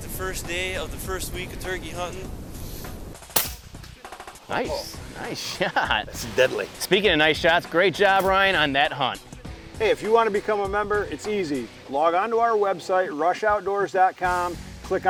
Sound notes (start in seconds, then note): 3.3 air rifle shot cracking